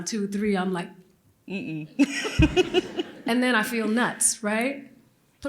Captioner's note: laughter